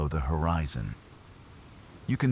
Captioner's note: wind Blowing